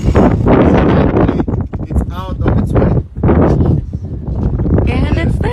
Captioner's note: the boom